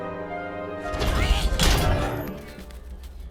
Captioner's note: cage closing